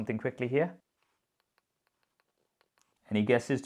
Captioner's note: light tapping sound